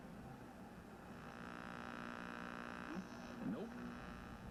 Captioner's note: radio buzzing